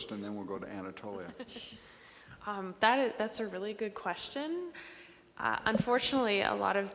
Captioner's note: laughs